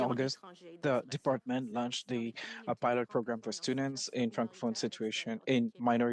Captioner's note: speaking French